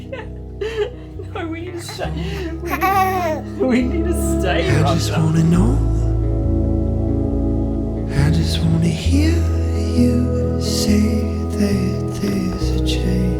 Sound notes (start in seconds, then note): 2.6 coos